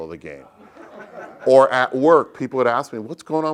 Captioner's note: laugh